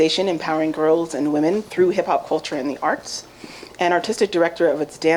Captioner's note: none